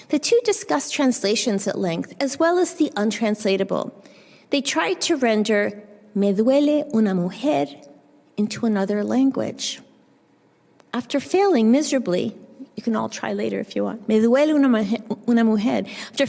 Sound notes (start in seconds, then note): 7.0 spanish; 14.1 spanish